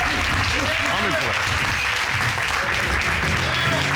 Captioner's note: audience applauding